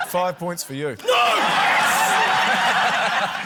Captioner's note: laughter